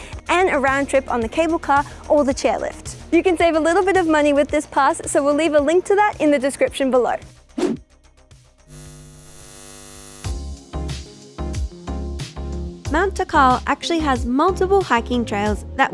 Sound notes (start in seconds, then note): 7.5 air whooshes; 10.3 lighthearted music